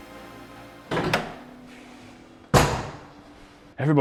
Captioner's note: hood latch clunks; door claps